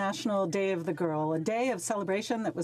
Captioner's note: speaking French